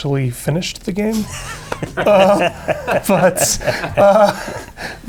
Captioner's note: laughter